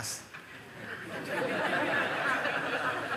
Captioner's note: laughter